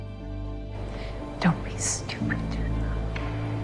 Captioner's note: voiceover